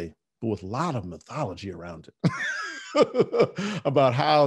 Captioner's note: laughing